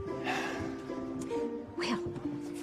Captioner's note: sighs